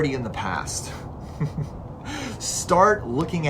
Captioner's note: chuckles